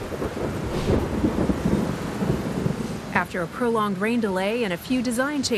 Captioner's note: thunder rumbling